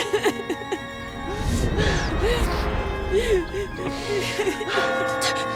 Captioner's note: crying; bell's ringing